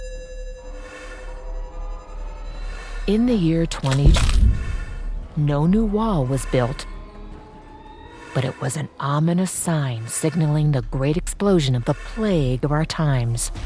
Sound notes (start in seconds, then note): 3.9 object thudding